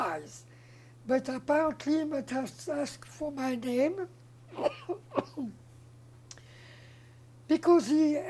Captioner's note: coughing